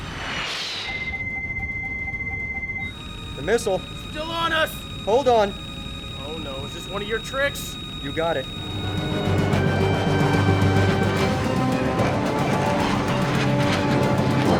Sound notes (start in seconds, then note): 0.0 missile whirring; 0.2 loud beeping; 9.0 intense, dramatic music; 9.4 aircraft whooshing